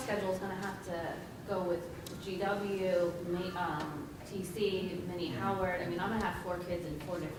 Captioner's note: speaking softly